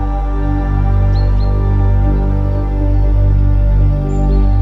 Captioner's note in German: Vogelzwitschern